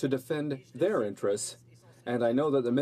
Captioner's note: speaking French